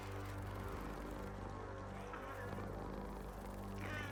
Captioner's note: Giree purring